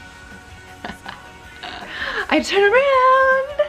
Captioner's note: laughs